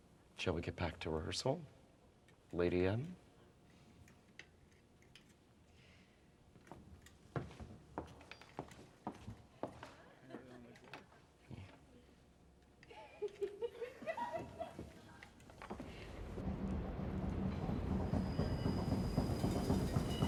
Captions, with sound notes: Shall we get back to rehearsal, Lady M? [WOMEN LAUGHING] [DRUMBEATS]